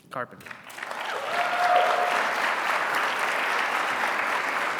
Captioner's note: attendees clapping